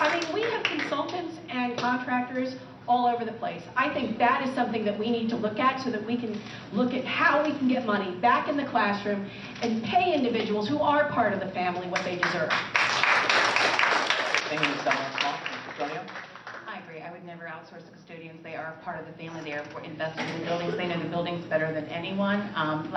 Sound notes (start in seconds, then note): 12.2 applause